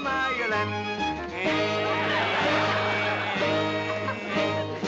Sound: humming

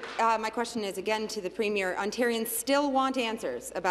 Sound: applause

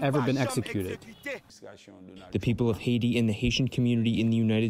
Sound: through translator

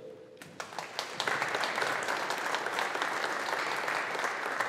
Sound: audience applauding

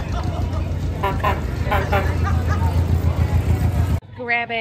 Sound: horn beeps

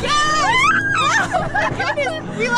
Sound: screaming with joy

